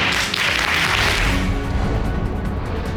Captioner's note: bangs gavel